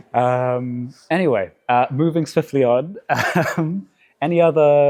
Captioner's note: chuckles